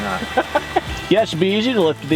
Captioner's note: laughing